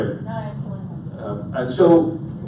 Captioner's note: audience member speaking quietly